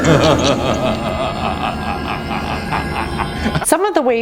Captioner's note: evil laugh